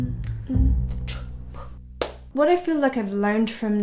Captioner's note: hands clap